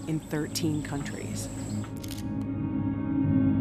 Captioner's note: camera clicks